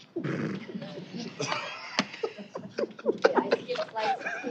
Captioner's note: laughter